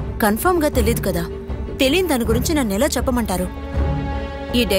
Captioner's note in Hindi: none